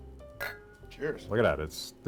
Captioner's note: glasses cling